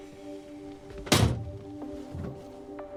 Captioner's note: shuts door